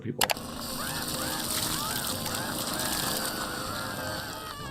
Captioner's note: Nutty screaming